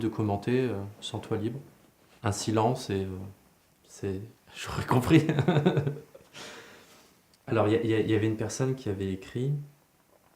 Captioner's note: laughs